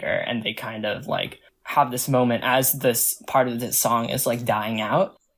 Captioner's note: none